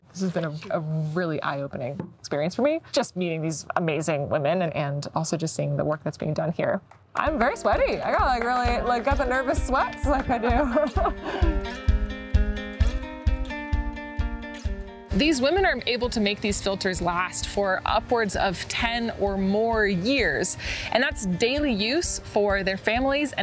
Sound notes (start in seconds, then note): 10.0 laughs; 11.0 upbeat music